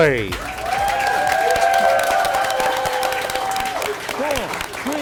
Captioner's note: applause